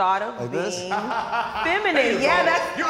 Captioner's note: laughs